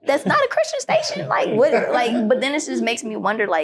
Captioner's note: group laughing